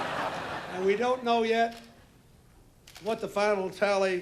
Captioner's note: laughter